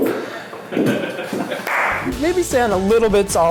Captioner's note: laughing